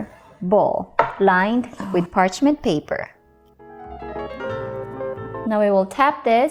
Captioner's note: bowl thud